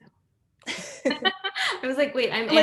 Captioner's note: panelists laughing